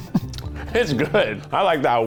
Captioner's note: laughs